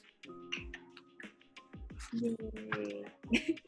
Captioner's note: claps